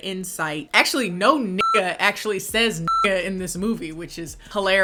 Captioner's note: beep